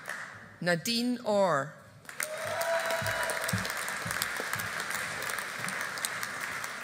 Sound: audience applauding

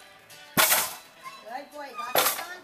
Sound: teeter totter slamming

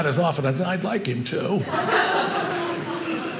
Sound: audience laughing

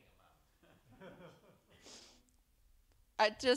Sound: attendees laugh

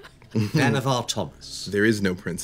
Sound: chuckling

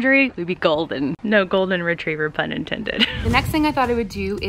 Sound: laughs

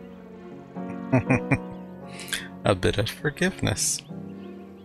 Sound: chuckling

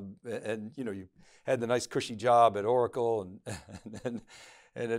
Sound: chuckles

